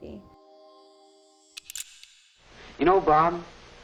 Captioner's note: clicking